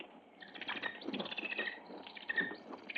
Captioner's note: bird chirping